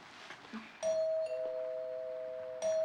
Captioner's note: doorbell ringing